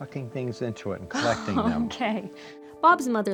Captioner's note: laughing